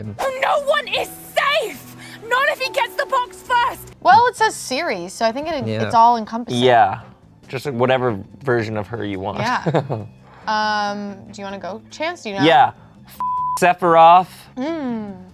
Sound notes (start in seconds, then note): 13.2 beep